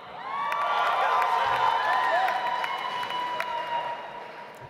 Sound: audience applauds

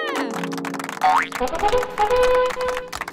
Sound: clapping

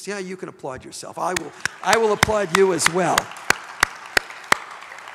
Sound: audience applauds

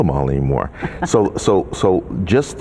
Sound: laughs

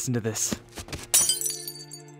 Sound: fighting sounds

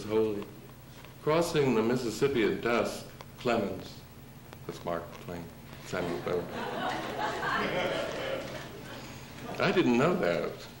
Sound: laughter

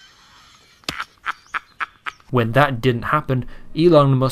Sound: hahahahaha

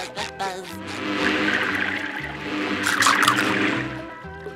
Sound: buzzing, chomping

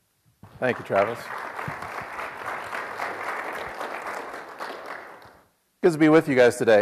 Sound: applause

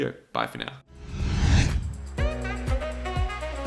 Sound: air whooshing; upbeat jazz music

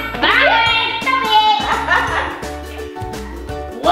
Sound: laughing

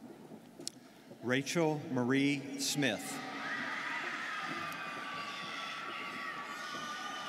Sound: students cheering

